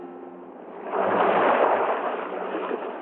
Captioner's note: waves crashing